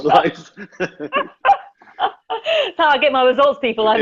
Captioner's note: laughing